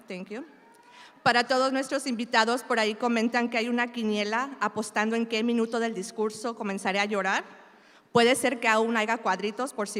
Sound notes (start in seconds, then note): 1.4 speaking in Spanish